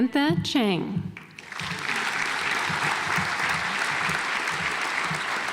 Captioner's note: audience applauds